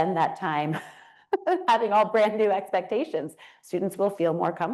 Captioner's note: laughs